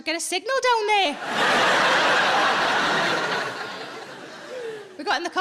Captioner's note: audience laughing